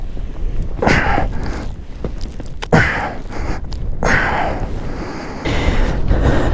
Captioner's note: grunts